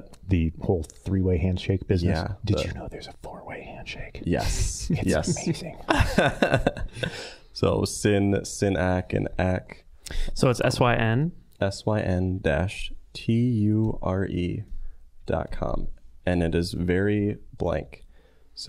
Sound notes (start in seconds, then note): 2.4 whispering; 4.5 laughing